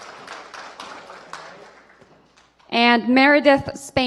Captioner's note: applause